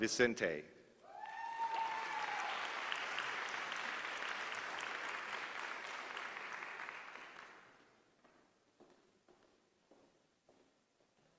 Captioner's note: applause